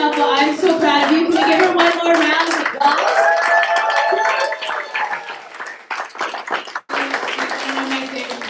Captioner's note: applause